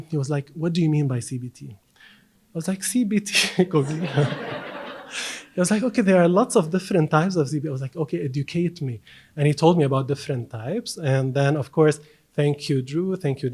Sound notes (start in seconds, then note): 3.7 audience laughs